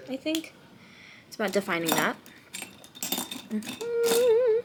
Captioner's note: humming